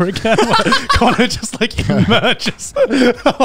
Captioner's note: laughs